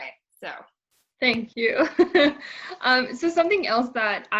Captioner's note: laughs